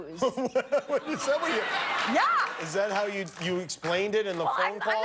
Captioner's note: laughter